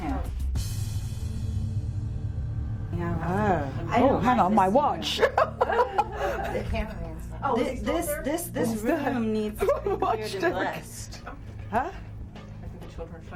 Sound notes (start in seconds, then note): 0.3 soft dramatic music; 5.0 woman laughing